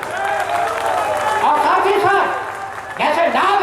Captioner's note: applause.. in the background